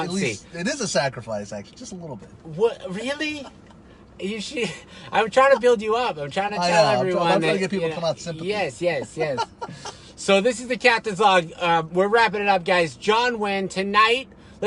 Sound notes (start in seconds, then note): 9.8 laughing